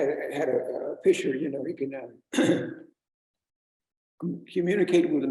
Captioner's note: clears throat